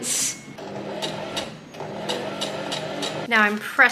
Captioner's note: sewing machine chugs along